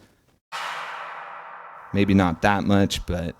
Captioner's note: slowly reverberating clap